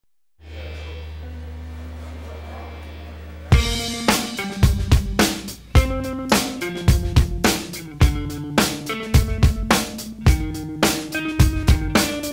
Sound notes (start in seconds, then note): 0.1 amplifiers whirring; 3.5 mellow alternative rock music